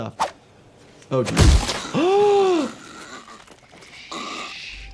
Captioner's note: gasps